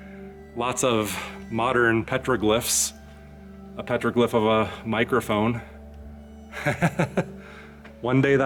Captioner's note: laughs